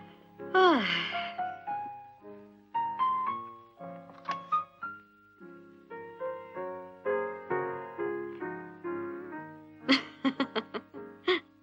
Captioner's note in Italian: sospiri